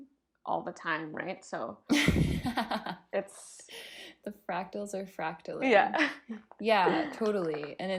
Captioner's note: giggle